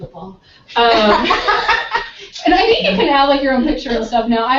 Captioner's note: laughter